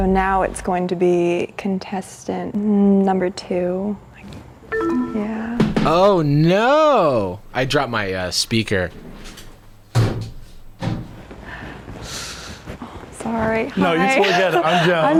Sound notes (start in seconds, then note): 4.7 bell dinging